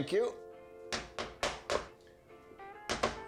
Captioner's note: hammering